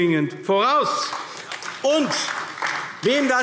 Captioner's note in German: Beifall AfD